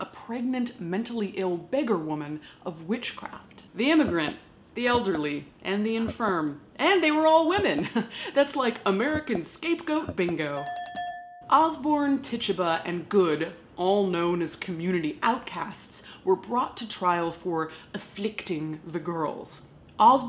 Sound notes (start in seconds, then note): 10.5 bell dinging